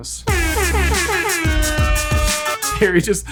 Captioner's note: hip hop music; air horn playing